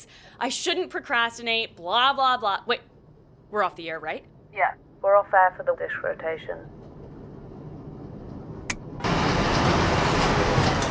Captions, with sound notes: I shouldn't procrastinate. Blah, blah, blah - Wait. We're off the air, right? Yeah. We're off air for the dish rotation. [click] [loud motor stops]